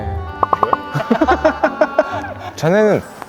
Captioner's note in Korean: 웃음